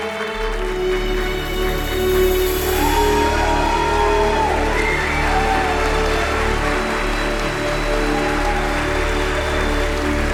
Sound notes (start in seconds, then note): 0.1 melodic cinematic music; 2.0 audience cheering